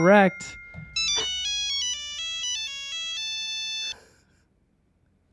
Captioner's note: monophonic phone ringing